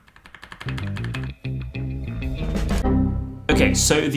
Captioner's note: computer chimes; groovy music; key tapping; computer chiming